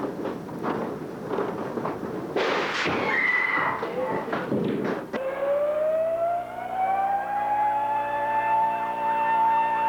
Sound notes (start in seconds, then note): 2.3 crash; 3.0 woman screams; 5.2 sirens